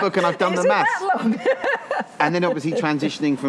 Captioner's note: laughs